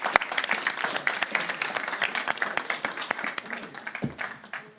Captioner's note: audience applauding